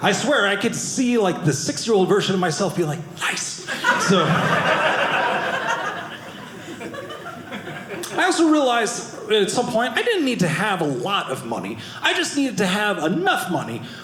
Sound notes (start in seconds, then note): 3.6 audience laughing